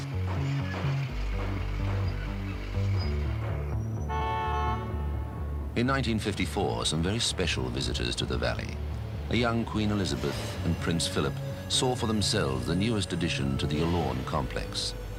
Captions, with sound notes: (machines operating) (car horn beeping) In 1954, some very special visitors to the Valley. A young Queen Elizabeth and Prince Philip saw for themselves the newest addition to the Yallourn complex.